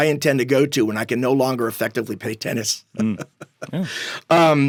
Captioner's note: laughing